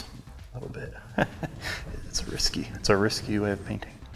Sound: chuckles

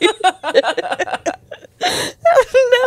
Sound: panel laughing

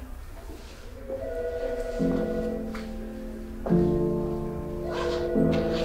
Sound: gentle music; phone ringing; backpack zipping

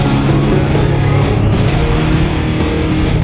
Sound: Safeguard powers up

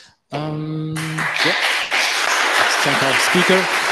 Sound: applause

